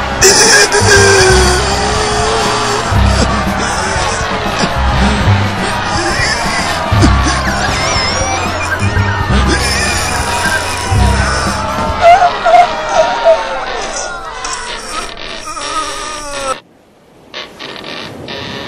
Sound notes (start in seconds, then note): 0.2 grunting Continues; 4.7 straining